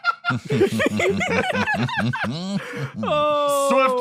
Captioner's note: laugh; laughs